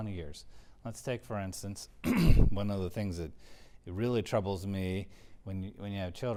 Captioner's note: cough